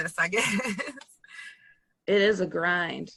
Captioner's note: laughs